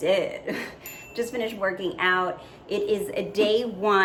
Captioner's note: dinging